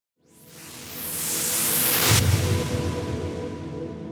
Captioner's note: whooshing